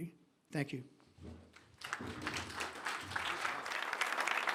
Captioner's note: applause